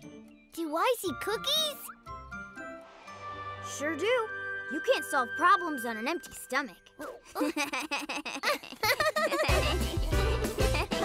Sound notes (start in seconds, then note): 7.1 both laughing; 8.8 upbeat music playing